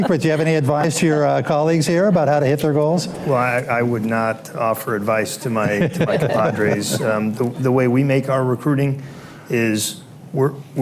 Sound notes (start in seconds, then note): 5.6 laughter